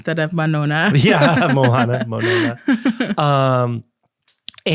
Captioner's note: laughing